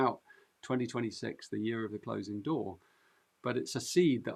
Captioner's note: none